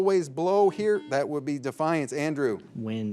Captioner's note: signal beeps